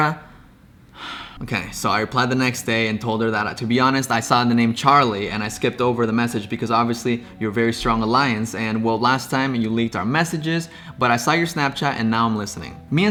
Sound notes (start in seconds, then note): 1.0 sighs